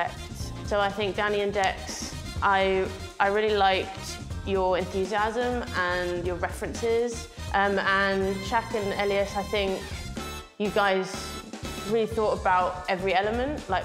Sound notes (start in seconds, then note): none